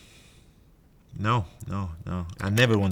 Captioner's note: keyboard clicking